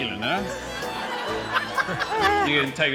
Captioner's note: laughter